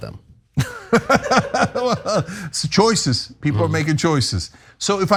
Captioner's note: laugh